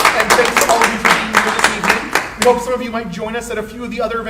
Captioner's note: audience clapping; clapping drowns out speaker